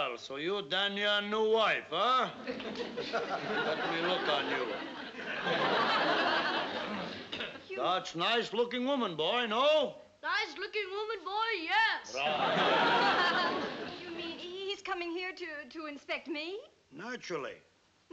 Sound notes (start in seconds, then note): 10.1 imitating uncle tonoose